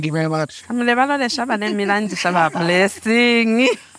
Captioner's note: interpreter speaking in foreign language